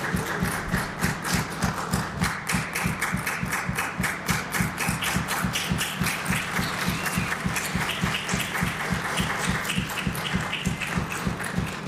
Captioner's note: applause